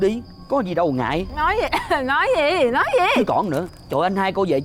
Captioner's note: cough